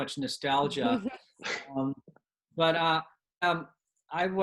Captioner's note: laughter